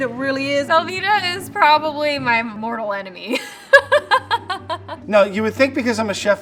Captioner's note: laughs